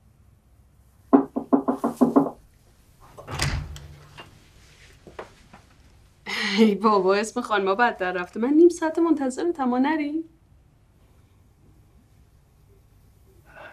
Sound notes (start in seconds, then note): 1.1 door knocking